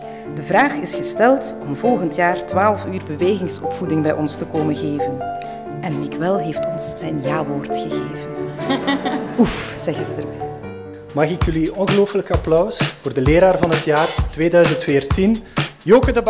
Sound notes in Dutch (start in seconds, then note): 8.6 gelach